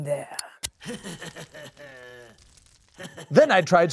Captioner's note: clown chuckles